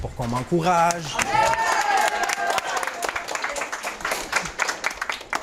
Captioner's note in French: acclamations et applaudissements